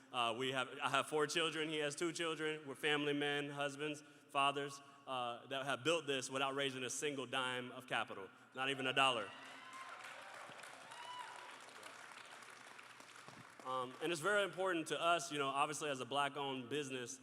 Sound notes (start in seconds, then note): 9.0 crowd cheering